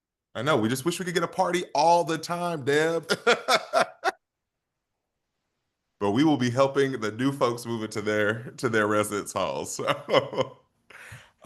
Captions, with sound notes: - I know, we just wish we could get a party all the time, Deb. [laughs] But, we will be helping the new folks move in to their residence halls. [laughs]